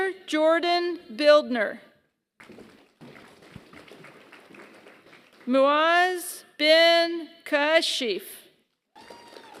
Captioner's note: applause; applause